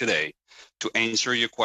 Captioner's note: speaking in french